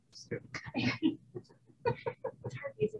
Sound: laughing

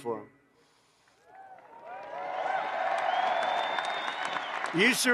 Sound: applause

